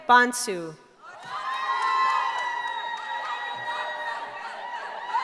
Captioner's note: cheering